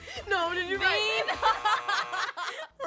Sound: laughing

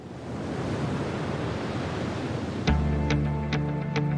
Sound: waves crashing

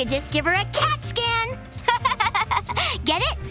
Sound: laughing

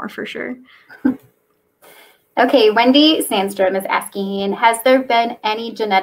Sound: laughs

